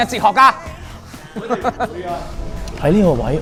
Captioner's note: laughter